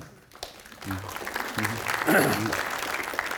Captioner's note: audience applauds